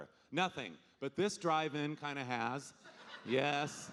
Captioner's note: audience laughing